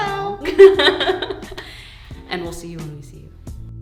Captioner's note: laughing